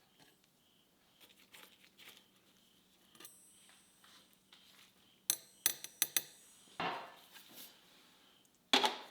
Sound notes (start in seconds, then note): 5.3 metal dinging